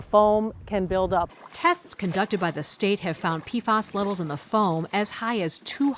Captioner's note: voice-over